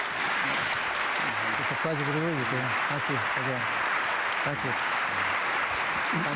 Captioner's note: applause